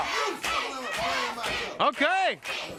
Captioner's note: crowd cheering